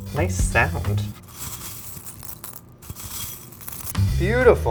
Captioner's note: sprinkles rustling